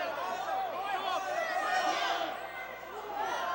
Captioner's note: crowd chatter